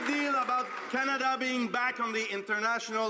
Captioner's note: some Applause